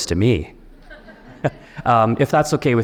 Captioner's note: audience members chuckle